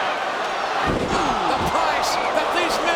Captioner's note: mat thumping